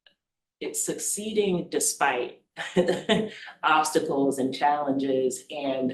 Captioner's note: laughs